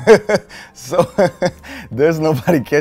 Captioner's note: laughs